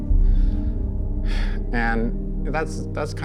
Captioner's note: Suspiro